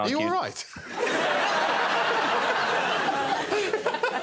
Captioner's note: laughter